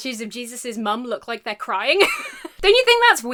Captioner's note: laughs